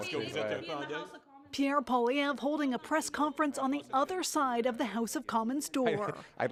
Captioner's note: speaking French